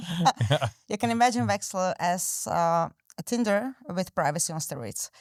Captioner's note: both laughing